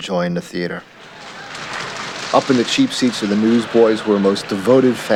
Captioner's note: applause